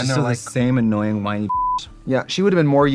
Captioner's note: beeping